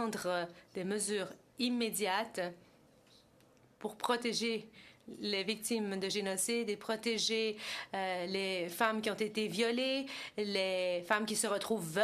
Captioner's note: speaking French